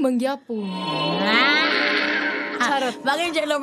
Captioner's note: squealing